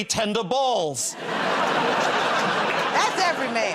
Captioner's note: laughter